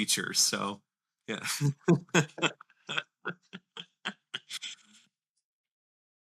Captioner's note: laughter